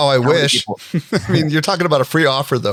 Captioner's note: laughs